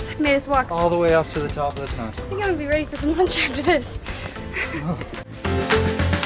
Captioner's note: heavy breathing